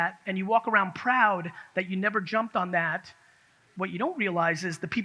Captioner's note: none